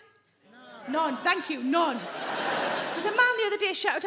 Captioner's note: audience laughing